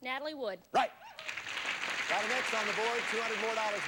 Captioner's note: audience applauding